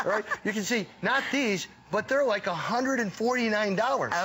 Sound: laughter

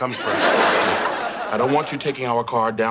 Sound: audience laughing

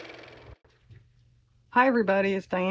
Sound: car motor

